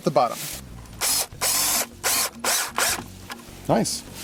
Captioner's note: drilling